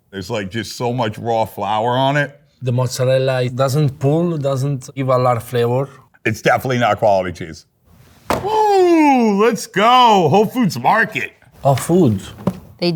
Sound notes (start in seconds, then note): 8.2 box clanging